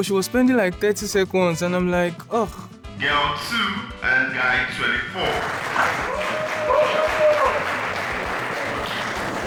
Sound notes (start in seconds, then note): 5.2 cheering; 8.3 applause